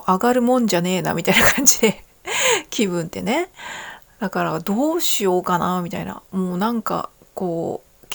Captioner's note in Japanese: 笑い